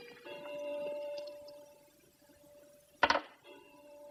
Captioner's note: clock chiming